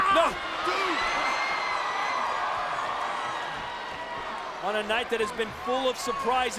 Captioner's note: applause